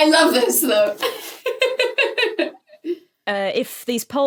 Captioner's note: laughs